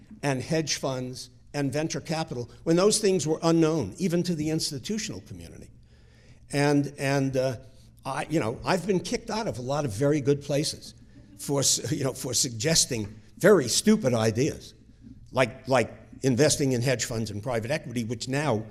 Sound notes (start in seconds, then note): none